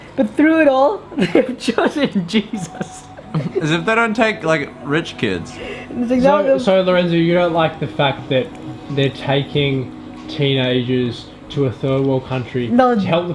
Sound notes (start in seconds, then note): 1.2 laughs; 1.2 chuckles